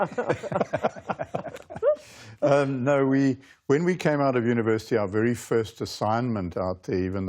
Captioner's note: laughter